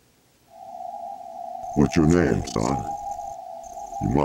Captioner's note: distorted voice